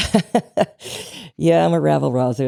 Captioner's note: laughs